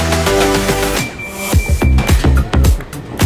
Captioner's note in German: Piepsen